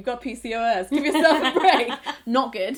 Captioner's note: laughs